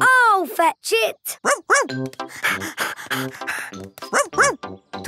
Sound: panting

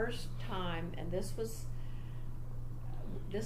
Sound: none

